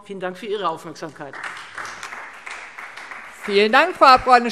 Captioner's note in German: Beifall Freie Demokraten